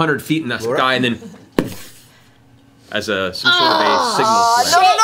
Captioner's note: poof